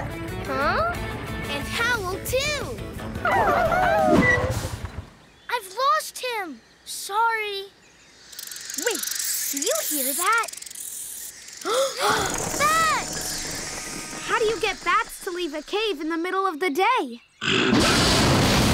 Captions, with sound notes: -Huh? -And howl too! [howling] I've lost him! Sorry. Wait, do you hear that? [gasps] Bats! How do you get bats to leave a cave in the middle of the day? [roaring]